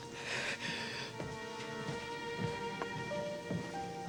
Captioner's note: Lilly sobs